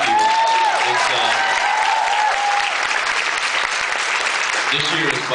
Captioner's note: applause, cheers